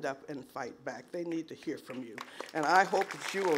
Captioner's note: applause